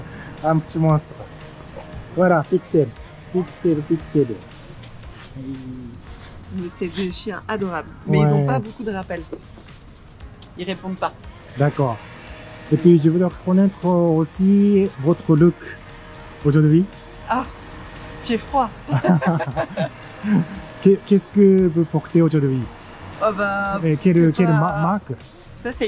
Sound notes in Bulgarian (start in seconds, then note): 18.8 смее се